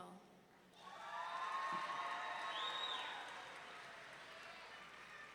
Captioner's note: audience members cheering